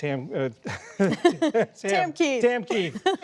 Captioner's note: laughter